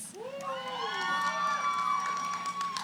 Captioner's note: cheering